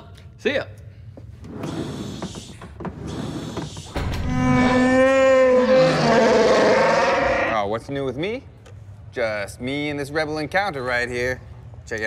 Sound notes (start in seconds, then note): 4.3 wookie roar